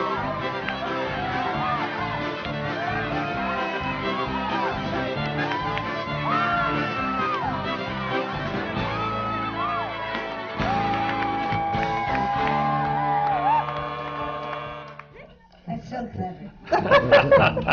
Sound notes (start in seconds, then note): 9.4 laughter from the panel; 16.6 laughter